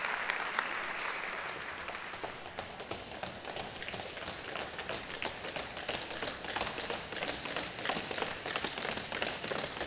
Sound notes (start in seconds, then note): 1.6 tap dancing sound